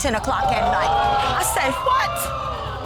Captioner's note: audience gasps